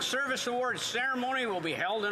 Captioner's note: applause